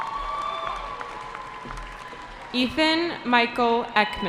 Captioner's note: cheering